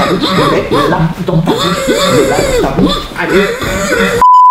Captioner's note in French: pleurs